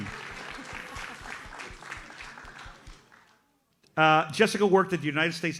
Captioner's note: audience applauds